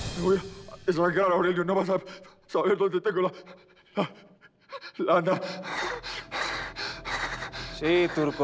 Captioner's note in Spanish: habla con dificultad